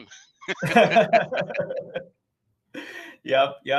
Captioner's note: laughing